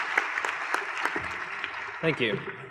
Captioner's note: applause